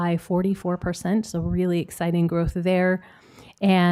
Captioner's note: none